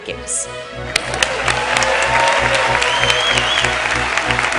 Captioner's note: cheers and applause